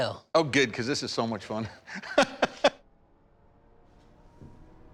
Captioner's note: laughs